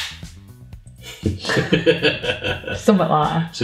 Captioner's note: laughing